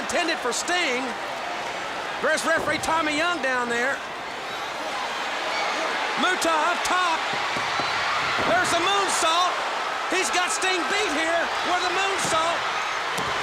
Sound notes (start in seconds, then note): 5.1 crowd cheering